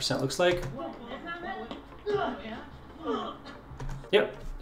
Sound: grunting and punching

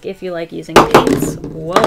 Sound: crash

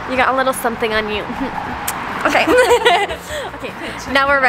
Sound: giggles

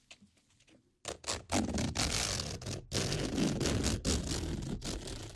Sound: pulling zipper again

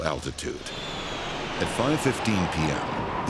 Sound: plane passing

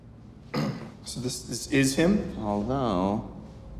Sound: man clears throat

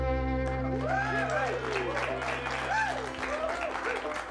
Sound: cheers and applause

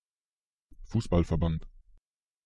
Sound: fast Pronunciation

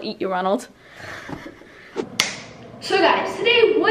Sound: soft laugh

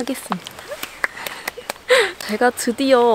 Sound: applause

